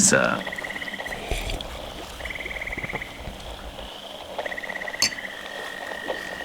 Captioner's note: sips fx, gulps, fx